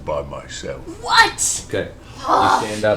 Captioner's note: groans